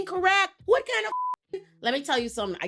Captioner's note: beep